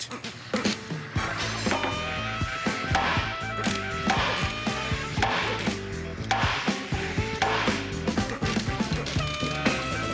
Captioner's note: hammering